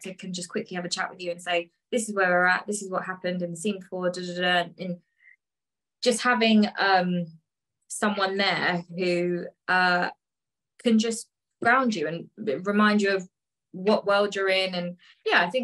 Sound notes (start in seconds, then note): none